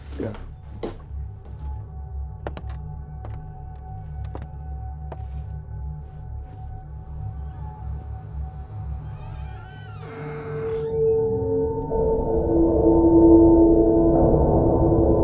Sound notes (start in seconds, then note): 3.1 eerie music; 7.0 door creaking; 12.2 unsettling music